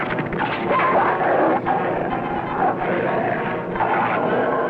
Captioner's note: barking and growling